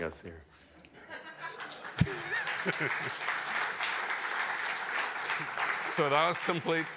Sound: applause

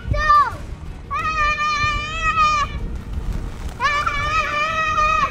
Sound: screams; continues screaming

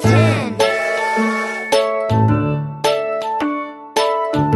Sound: train toots

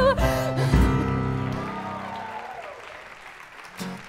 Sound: applause

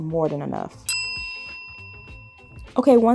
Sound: alarm dings

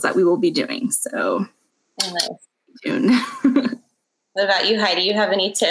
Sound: tongue clicks; laughs

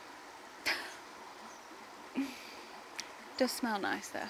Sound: laughs

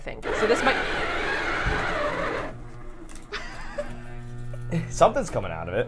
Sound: ice cream maker whirring

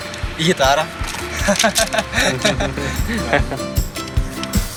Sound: laughts

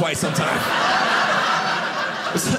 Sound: audience laughing

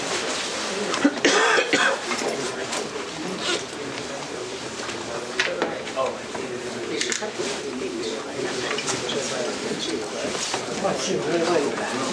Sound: background chatter

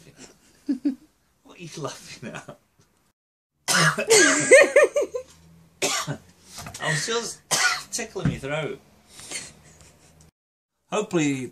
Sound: coughing

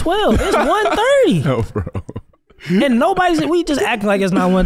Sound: chuckling

